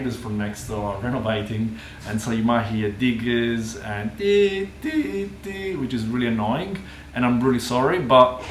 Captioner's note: diggers noise